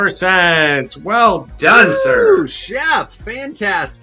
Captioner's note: host cheers